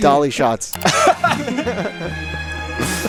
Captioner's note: slow music; everyone laughing